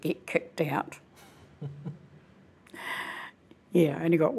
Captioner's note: laughing